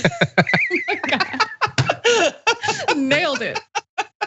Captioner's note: laugh